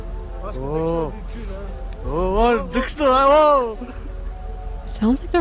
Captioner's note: foreign language